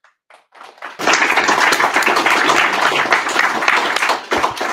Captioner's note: audience applauding